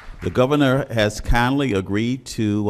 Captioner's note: applause